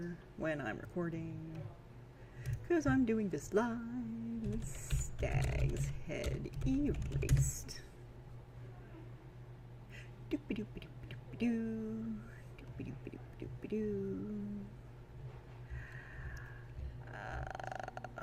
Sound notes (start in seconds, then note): 0.0 still sing-song; 9.2 sing-song nonsense